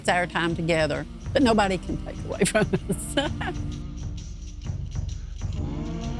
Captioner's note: laughing